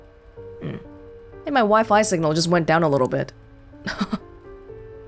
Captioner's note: chuckles